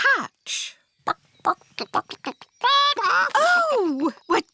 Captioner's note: clucking